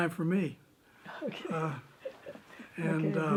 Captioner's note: interviewer chuckling